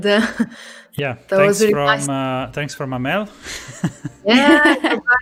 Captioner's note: laughs